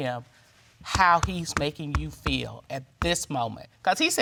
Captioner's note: bangs table